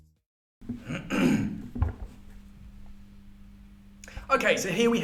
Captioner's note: clearing throat